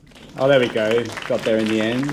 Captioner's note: applause